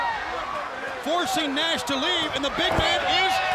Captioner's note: blows thudding